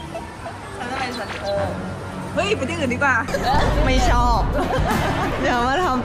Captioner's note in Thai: เสียงหัวเราะ